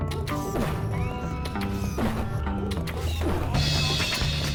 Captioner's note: guns blasting; funky upbeat music